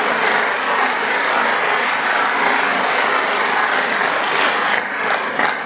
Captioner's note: applause